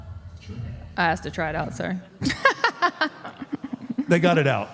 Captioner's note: laughs